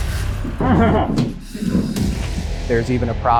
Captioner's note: grunting